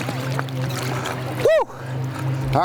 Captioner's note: water burbling